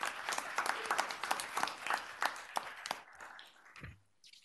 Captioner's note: applause